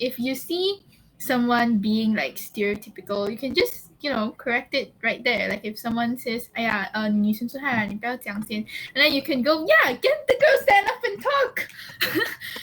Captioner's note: laughs